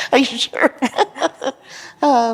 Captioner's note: laughter